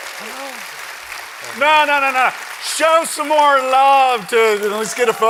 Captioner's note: applause